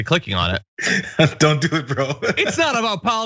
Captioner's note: laugh